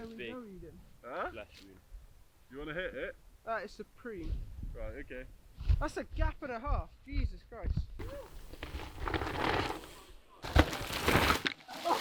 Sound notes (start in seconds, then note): 7.9 wooh! Bike tires crunching bracken; 10.8 skidding